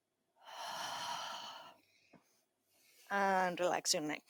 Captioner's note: exhales